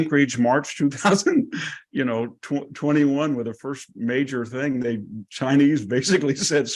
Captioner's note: laugh